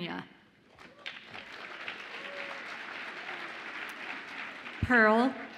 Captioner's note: audience applauds and cheers